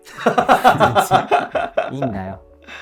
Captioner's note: laughing